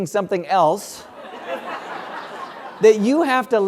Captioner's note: laugh